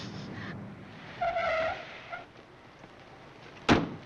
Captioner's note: tires screeching